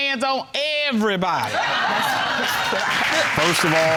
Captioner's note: audience laughing